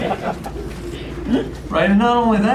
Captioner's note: laughter